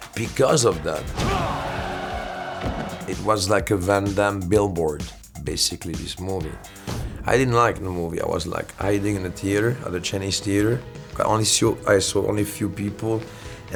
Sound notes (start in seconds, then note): 1.1 crowd cheering; 1.2 hero grunts